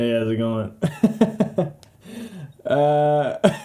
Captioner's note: laughing; laughing... again